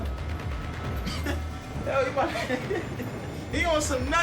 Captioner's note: laughs